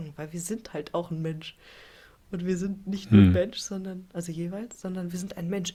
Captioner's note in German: räuspern